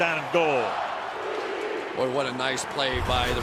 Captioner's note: crowd chanting